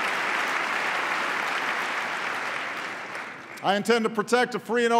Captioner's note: applause